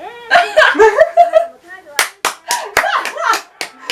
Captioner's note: Claping for Ino's sassy response